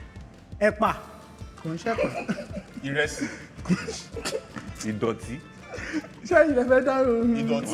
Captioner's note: laughs